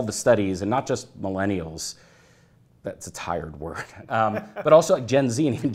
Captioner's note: laughter